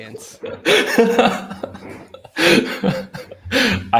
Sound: laughter

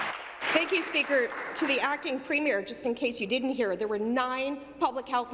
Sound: applause

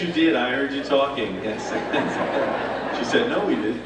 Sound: laughter

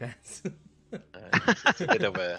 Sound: laughter

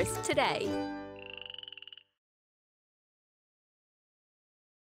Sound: frog croaking

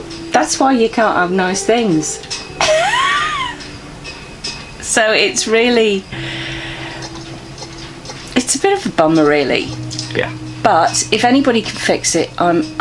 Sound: laughs

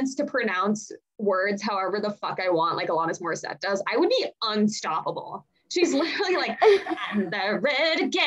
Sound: laughs

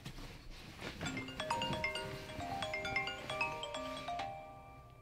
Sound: chiming alarm

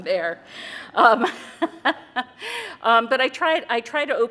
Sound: laughter

